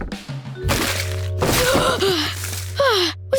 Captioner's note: gasping